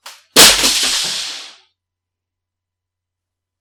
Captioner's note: keyboard hitting ground